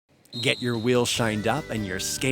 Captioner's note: voiceover